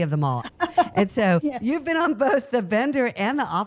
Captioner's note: laughs